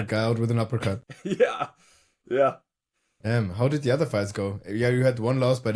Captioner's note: chuckles